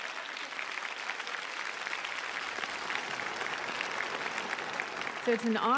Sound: applause

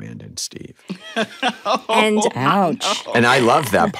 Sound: laughs

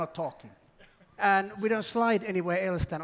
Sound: laughter

